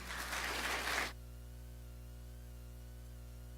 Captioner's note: applause